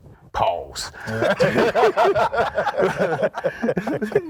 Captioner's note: group laughing